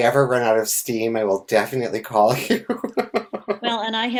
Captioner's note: laughs